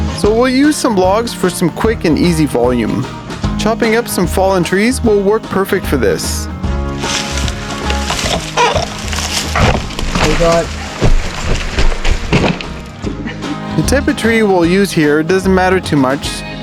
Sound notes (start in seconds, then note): 6.9 log rolling down hill